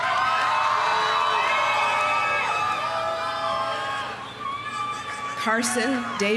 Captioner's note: audience applauding; audience cheering